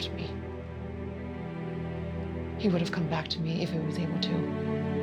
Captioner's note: says tearfully